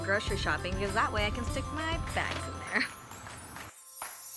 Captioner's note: laughs